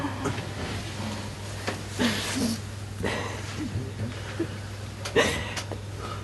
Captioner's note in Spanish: risas y sollozos